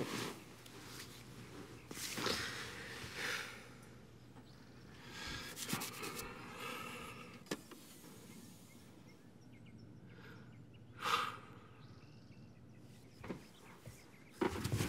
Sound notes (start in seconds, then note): 3.7 sighs; 11.0 sighs